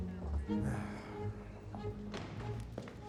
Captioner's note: sighs